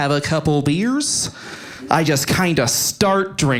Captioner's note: audience laughing